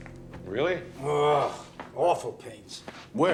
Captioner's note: groans